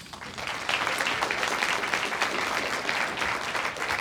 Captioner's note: audience applauds